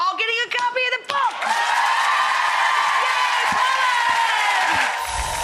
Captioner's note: audience applause